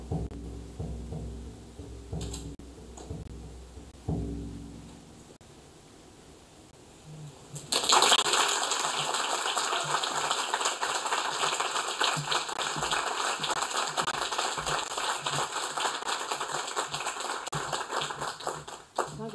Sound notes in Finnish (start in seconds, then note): 1.8 Rummun soittoa; 7.6 Aplodeja